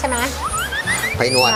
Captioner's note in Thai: เสียงเอฟเฟกต์